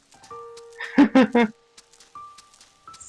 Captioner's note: laughs